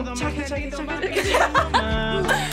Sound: both laugh

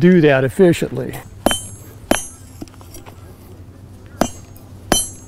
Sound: hammer falling

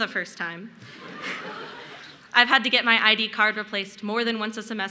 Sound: laughter

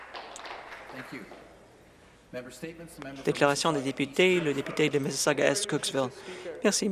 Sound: applause

